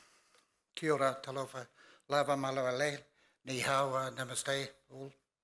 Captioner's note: speaks in foreign language